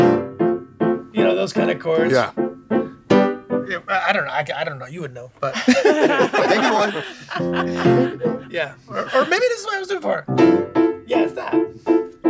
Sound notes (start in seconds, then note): 0.0 piano music; 5.5 all laughing